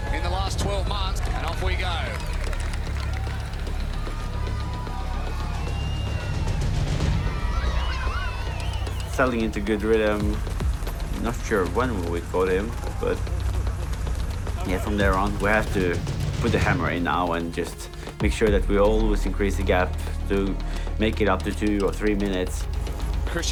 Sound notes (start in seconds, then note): 3.2 applause; 5.2 drumming